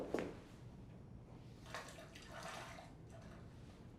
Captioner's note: bath water sloshes